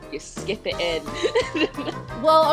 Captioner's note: laughs